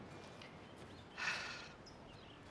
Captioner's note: sighs